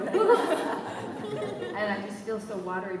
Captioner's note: laughter